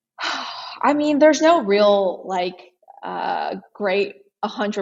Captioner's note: sighs